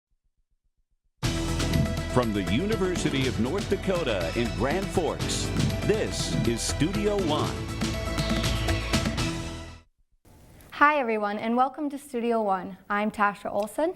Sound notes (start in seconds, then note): 2.2 voiceover